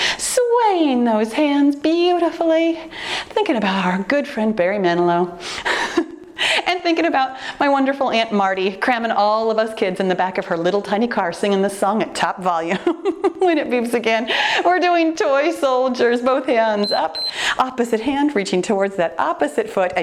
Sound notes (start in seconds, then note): 5.7 chuckles; 13.0 laughs; 16.8 timer beeps